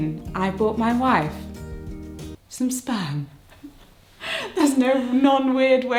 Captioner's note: giggles